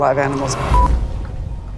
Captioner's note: quick beep